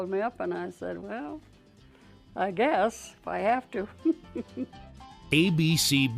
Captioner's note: laughing